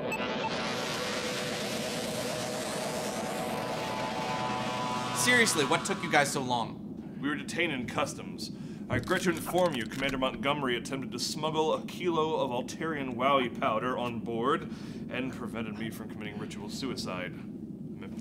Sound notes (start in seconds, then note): 0.0 transporter beam powering up; 8.9 bones cracking